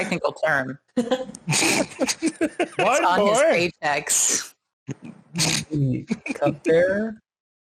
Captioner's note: laughter